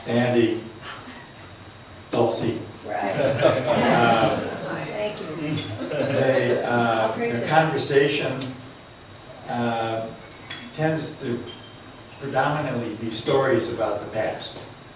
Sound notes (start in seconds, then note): 4.2 voiceover; 5.1 laughs